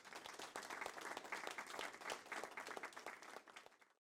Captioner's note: audience clapping